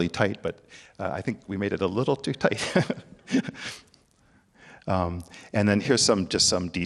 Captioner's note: laughs